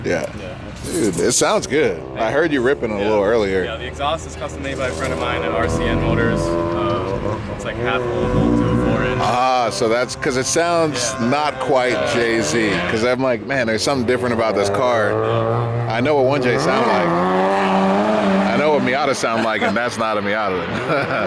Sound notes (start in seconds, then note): 17.3 engine revs